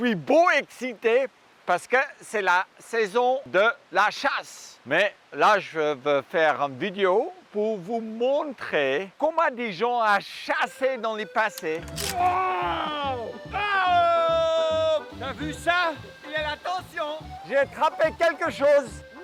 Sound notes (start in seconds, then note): 12.1 screaming and grunting